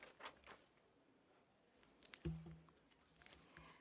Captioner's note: speaking French